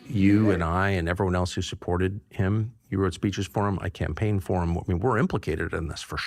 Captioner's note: audience reacts